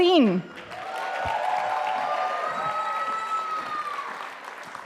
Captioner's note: audience applauding